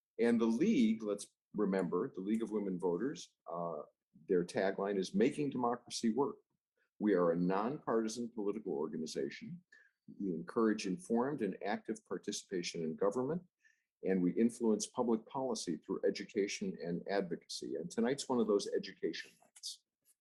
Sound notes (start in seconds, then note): none